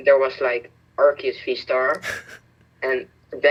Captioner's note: laughs